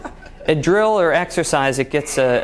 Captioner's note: laughing